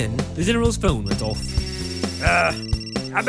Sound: phone ringing and buzzing

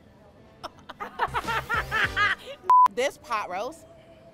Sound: laughing

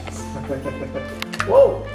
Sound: chuckling

